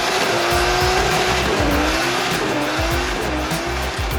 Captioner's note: upbeat instrumental music; engine roaring